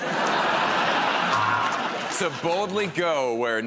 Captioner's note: laughter